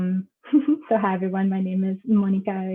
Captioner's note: laughs